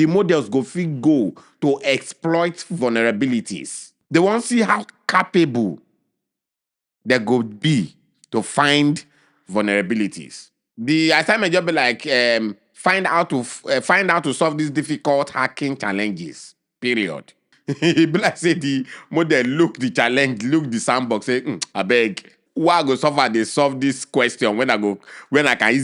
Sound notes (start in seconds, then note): 17.5 chuckles